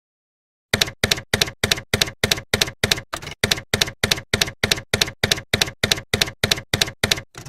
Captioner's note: typewriter keys clacking